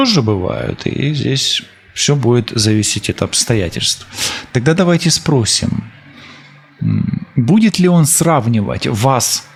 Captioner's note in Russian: фыркает